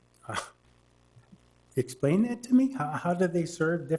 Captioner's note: scoffing